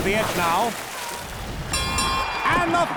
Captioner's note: dinging